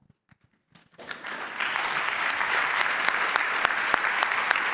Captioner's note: applause